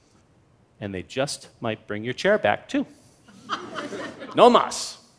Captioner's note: laughter